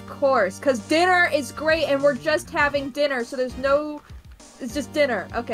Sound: talking louder

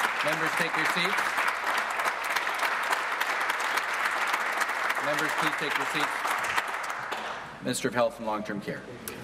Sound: some Applause

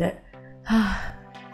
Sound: sigh

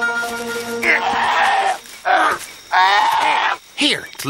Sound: bear cub crying

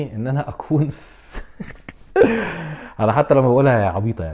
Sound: laughter

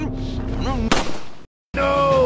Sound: shot

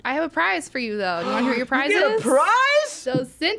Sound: gasps

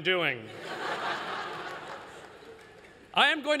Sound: laughter

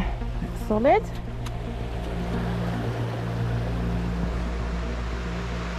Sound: rushing water

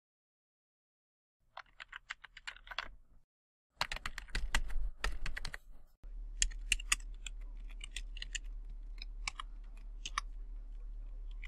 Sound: typing noises

